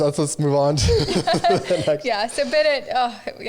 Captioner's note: all laughing